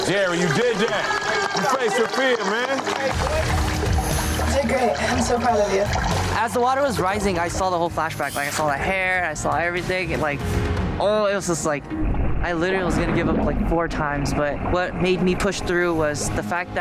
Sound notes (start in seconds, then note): 0.0 contestants cheering; 0.0 contestants clapping